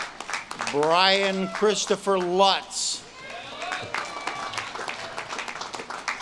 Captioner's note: audience claps and cheers